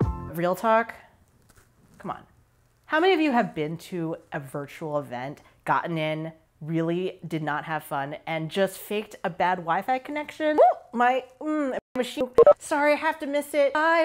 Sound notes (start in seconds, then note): 11.2 audio skipping